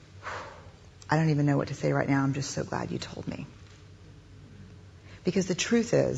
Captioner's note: deep breath out